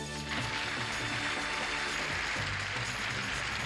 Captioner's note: applause